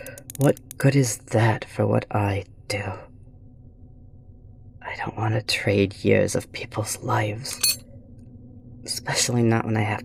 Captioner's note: drops tool